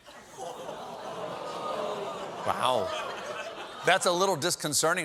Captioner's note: audience reacts